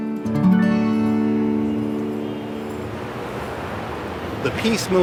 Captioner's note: gentle guitar music; city traffic rumbling